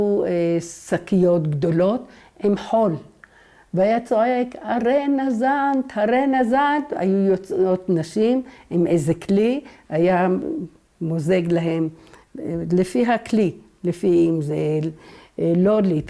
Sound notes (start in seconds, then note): 5.0 in Arabic